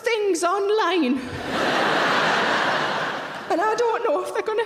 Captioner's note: audience laughing